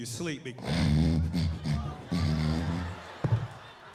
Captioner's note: snoring